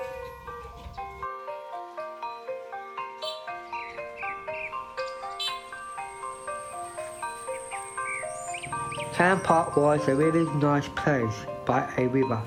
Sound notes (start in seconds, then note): 0.6 dog barking, beeping of horns